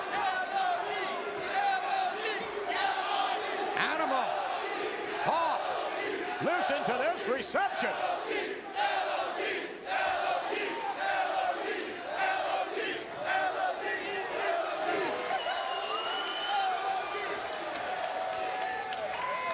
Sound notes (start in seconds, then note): 0.8 crowd chants; 9.6 crowd chants